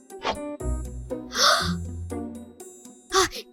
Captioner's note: gasp!